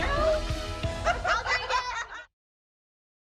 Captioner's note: laughter